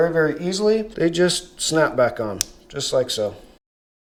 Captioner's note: clicks